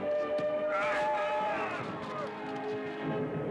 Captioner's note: yelling